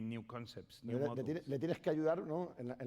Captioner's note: speaking spanish